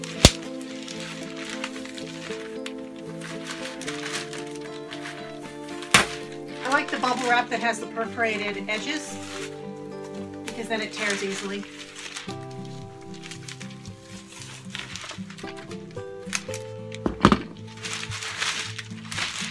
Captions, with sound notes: I like the bubble wrap that has the perforated edges, because that it tears easily. (calm music) (paper rustling)